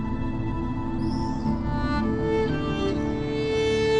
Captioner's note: birds sing